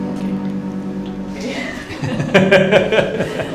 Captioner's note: laughter